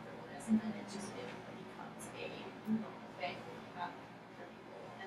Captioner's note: speaking softly